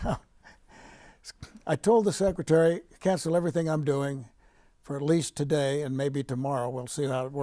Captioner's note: laughing